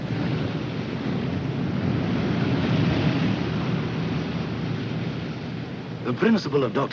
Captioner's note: aircraft engines rumbing